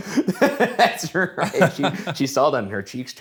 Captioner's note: laughs